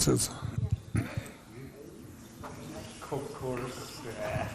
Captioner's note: participants chatting